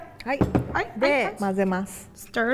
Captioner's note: speaking in Japanese